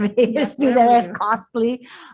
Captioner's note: laughing